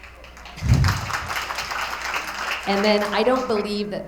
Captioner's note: attendees applauding